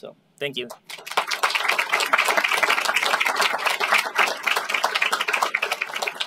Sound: applause

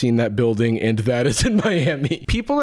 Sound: chuckles

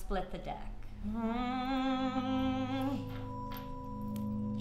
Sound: humming

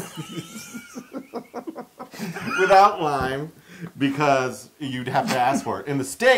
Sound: laugh

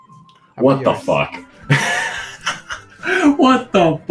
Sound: laughs

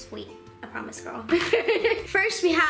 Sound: laughs

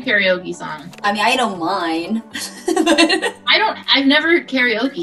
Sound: laughs

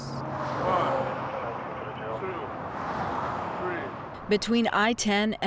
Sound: traffic roaring

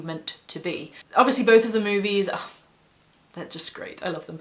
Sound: scoff

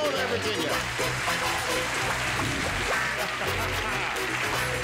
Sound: cheers and applause

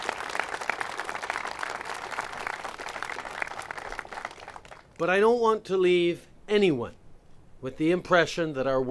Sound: applause

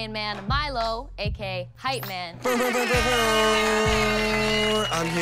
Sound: imitating air horn

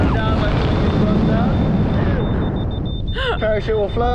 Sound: incessant beeping

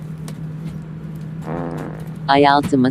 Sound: fart sound

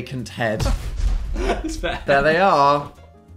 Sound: laughs

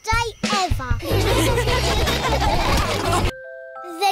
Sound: all laughing

